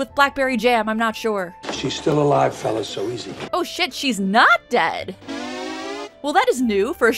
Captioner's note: reverse waahh